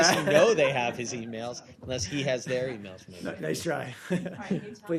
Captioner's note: laughter